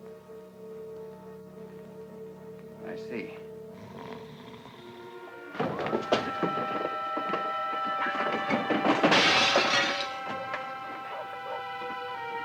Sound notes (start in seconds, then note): 3.7 Hodges snores; 4.1 suspenseful music; 8.0 glass smashes